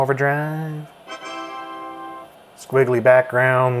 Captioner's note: computer chiming